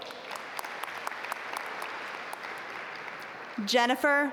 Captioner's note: audience applaud